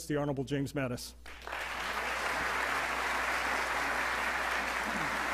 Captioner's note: audience applauding